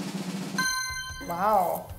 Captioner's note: drum roll; dings